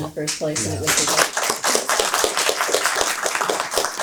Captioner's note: applause